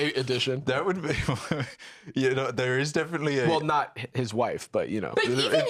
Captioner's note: chuckles